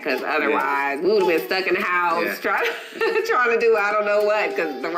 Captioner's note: laughing